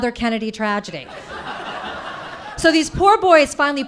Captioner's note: audience laughing